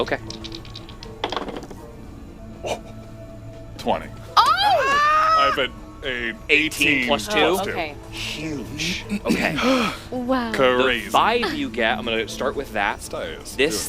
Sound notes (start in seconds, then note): 4.4 excited Scream